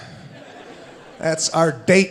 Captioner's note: audience laughing